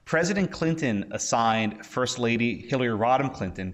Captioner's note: none